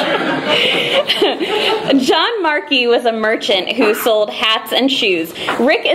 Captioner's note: laughing